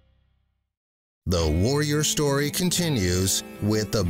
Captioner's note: voiceover